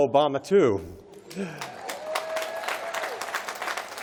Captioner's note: applause